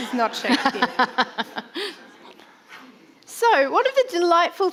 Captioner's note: laughs